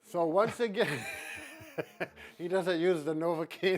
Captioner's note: laughs